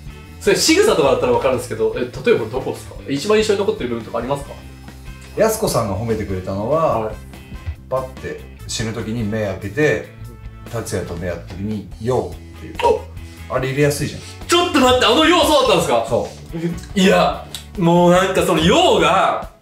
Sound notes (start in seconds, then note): 13.2 gasp